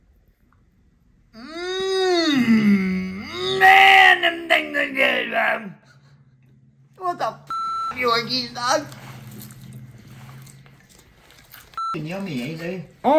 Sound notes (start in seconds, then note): 7.4 beep; 11.7 beeping